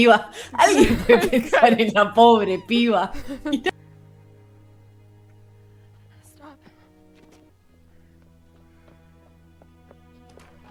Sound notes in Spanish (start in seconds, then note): 0.4 risas